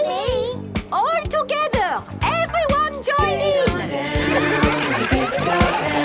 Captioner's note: laughter